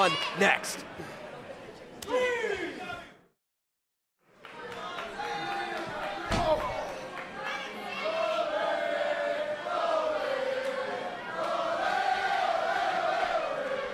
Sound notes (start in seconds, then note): 4.4 crowd cheering